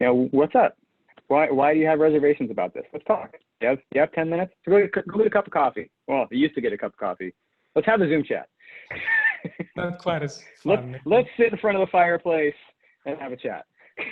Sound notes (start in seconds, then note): 8.8 laughs; 13.9 laughing